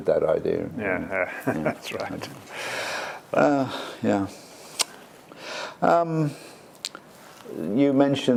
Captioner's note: laugh